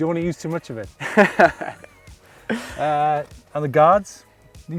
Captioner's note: laughs